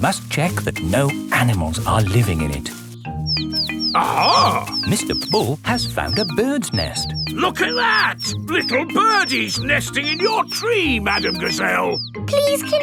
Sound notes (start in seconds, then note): 3.6 chirping